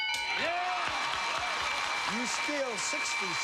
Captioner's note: cheers and applause